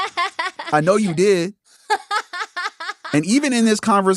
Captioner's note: laughs